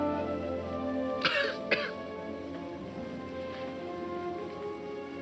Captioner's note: Jim coughing